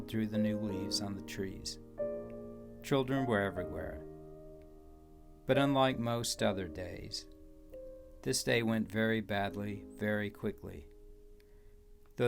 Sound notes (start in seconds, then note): none